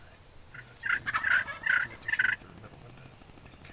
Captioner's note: turkey gobbling